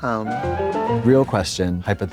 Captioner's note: bright chime